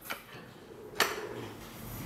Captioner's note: clacking